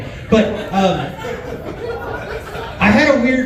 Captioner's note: laughs